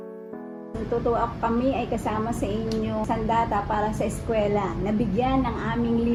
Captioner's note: speaking in foreign language